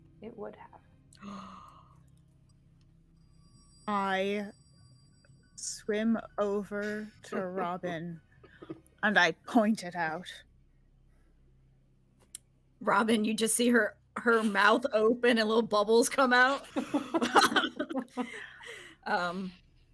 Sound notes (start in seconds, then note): 1.6 person gasping; 16.6 people chuckling